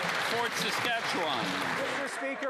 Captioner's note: some Applause